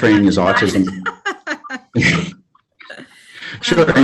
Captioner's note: laughs